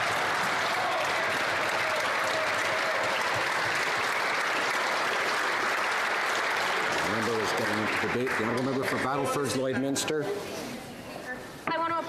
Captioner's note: cheering and Applause